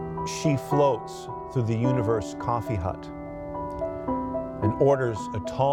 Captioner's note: reciting